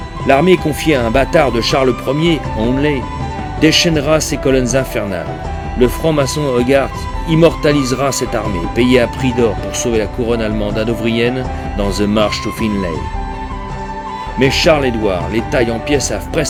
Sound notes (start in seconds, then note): 10.0 German